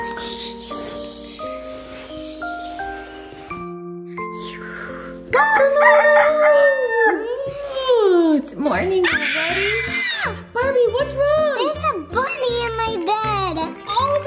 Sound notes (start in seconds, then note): 0.2 snoring; 5.4 rooster crows; 8.1 yawns; 9.0 squeals